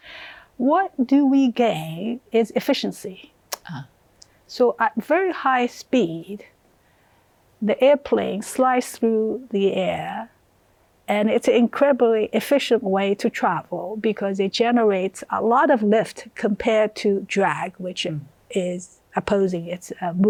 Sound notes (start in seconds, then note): none